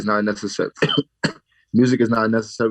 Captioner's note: coughs